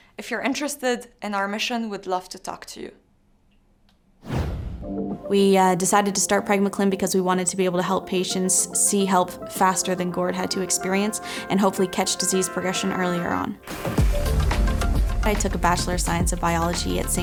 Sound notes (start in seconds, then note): 4.2 air whooshing; 13.6 upbeat music